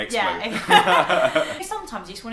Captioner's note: laughter